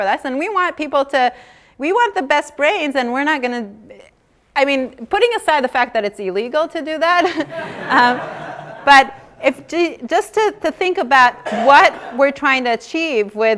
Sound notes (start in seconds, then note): 7.2 laughter